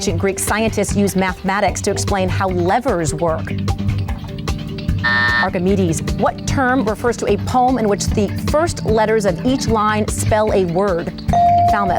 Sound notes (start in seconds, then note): 5.0 timer buzzes; 11.3 bell dings